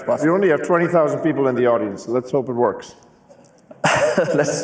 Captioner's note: laughs